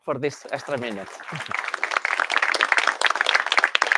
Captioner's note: applause